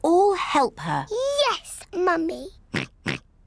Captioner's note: oinks